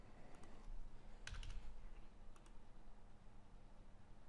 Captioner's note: keyboard clacking